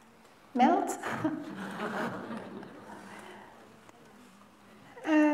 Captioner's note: laughter